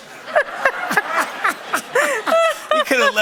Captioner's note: laughter